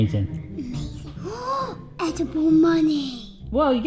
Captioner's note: gasps